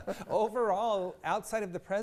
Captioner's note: laughs